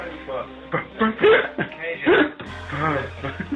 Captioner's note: laughing